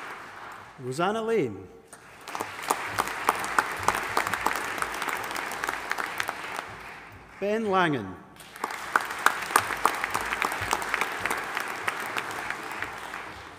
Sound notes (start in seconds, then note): 1.9 audience applauding